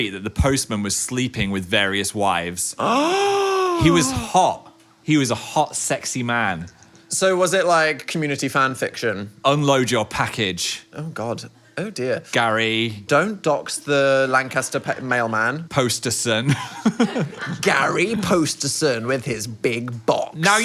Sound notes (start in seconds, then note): 2.8 gasps; 16.5 laughs